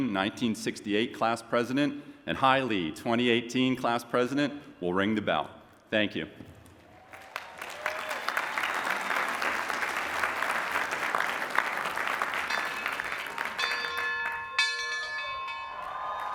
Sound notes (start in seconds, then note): 6.8 applause and cheering; 12.3 bell ringing